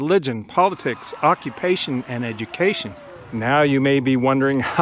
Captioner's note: graduates cheering